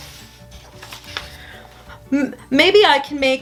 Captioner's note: paper rustling